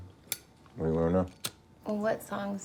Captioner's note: lighter clicking